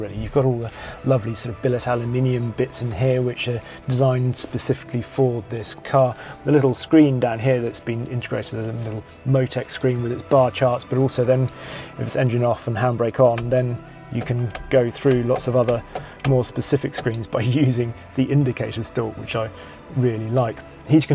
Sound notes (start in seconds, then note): 14.4 lever clicking